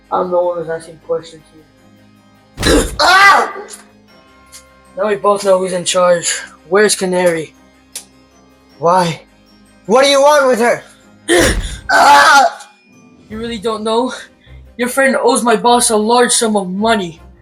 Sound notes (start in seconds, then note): 2.6 screams in pain; 11.3 painful scream